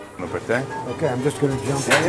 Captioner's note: speaking Italian